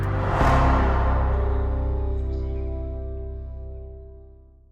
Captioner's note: bright music; graphics swooshing